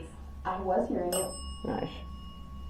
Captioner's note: bell dings